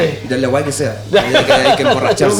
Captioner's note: laughs